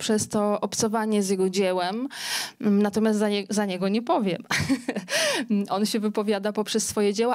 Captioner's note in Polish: śmiech